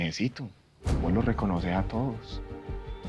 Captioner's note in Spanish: none